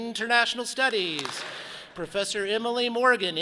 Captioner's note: audience claps